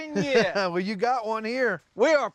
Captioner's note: chuckling